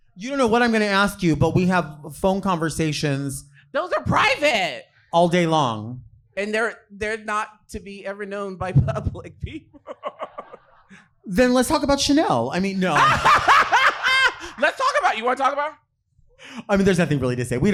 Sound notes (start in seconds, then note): 9.4 chuckling; 12.9 laughing